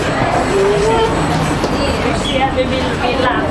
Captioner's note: train ventilation sound